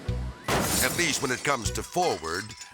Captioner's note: metal crunches and crashes